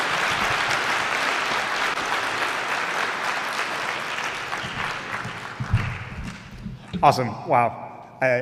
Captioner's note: applause